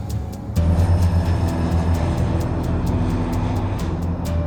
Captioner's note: plane engine roars